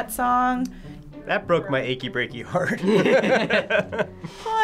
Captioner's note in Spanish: riendo